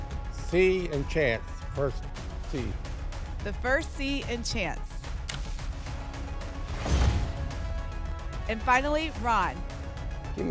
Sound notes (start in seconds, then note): 6.7 whoosh; 6.8 thump